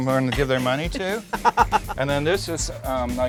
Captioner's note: laughing